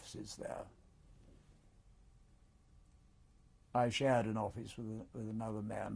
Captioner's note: pauses for 3 seconds